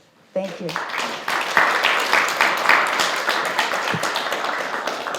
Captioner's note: attendees applauding